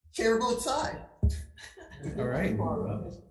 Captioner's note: committee chattering